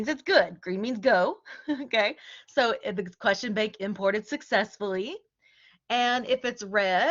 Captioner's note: laughter